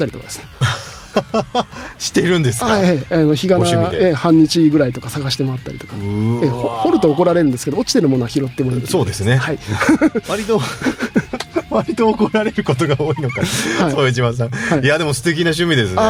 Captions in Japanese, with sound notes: [笑い] はい。え、あの、日が、え、半日ぐらいとか探してもらったりとか、 え、掘ると怒られるんですけど、落ちてるものは拾ってもいい。 そうですね。 はい。 割と割と怒られることが多いのか一島さん。いや、でも素敵な趣味ですね。 [笑い]